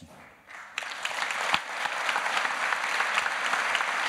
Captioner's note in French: Applaudissements